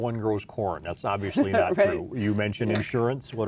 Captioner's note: laughs